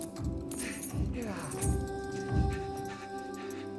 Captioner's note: Lance breathing heavily; keys clatter